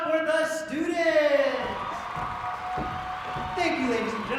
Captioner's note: applause